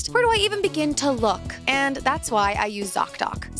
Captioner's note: none